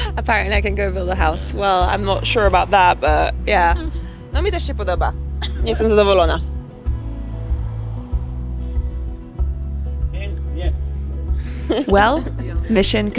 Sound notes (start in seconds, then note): 0.0 laughs; 4.5 speaks foreign language; 9.3 gentle music; 10.7 grandpa speaks foreign language; 11.4 laughs